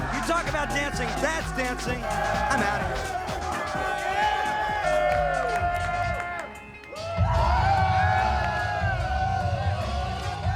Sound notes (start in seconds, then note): 2.6 crowd cheering; 4.3 upbeat pop music; 7.1 crowd cheering